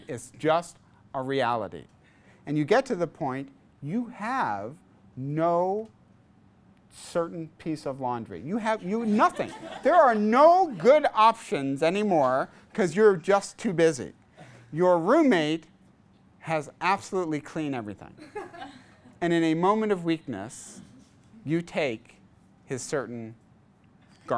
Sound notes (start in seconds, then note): 9.1 class laughs